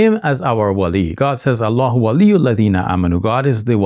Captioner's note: speaking Arabic